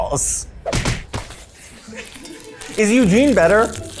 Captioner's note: Snoballs crashing